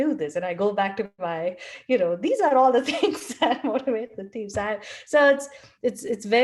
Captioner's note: laugh